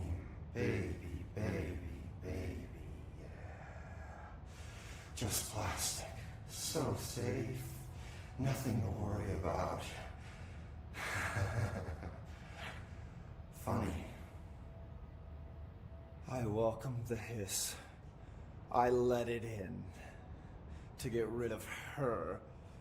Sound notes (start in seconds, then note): 10.9 chuckles; 15.8 in normal voice